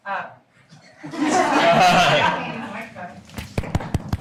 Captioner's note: laughing